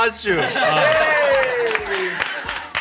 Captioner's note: everyone cheers